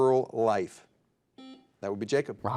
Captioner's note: buzzer dings